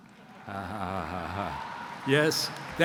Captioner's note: audience laughs